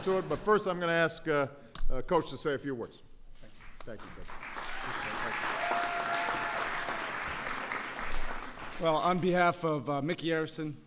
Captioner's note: laughter; applause